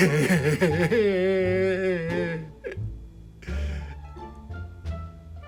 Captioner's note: even more crying